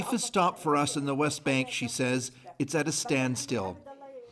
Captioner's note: speaking alternate language